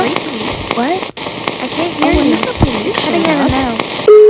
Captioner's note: static Noise